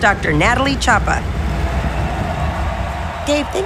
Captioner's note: crowd cheering